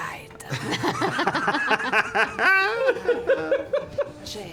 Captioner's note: laughter